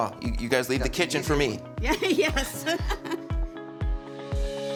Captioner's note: laughs; gentle upbeat music